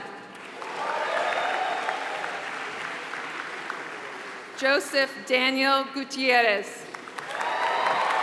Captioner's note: applause